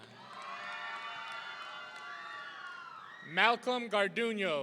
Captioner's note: audience cheering